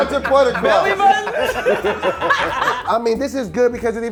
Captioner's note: laughing